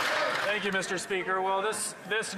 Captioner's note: some Applause